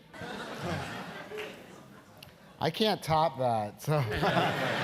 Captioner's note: laugh; laugh